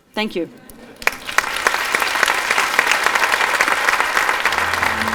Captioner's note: audience applauding